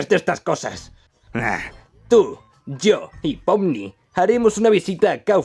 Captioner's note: sighs